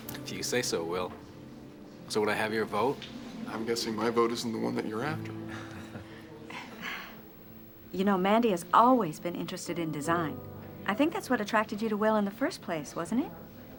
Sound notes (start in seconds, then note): 5.4 chuckles